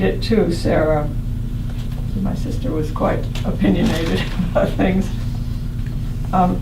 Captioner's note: laughs